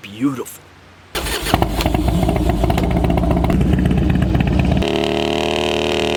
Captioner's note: engine starting; engine revving